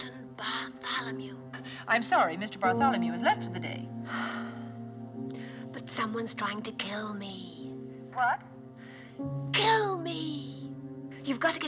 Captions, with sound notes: Mr. Hamilton Bartholomew. I'm sorry. Mr. Bartholomew has left for the day. [Sighs] But someone's trying to kill me. - What? - [Whispering Louder] Kill me!